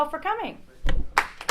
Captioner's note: applause